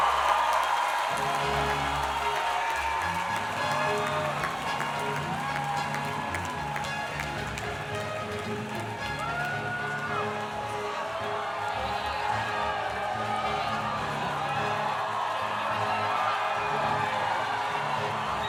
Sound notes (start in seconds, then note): 0.0 audience applauding; 0.0 audience cheering; 0.3 triumphant music; 5.0 audience continues cheering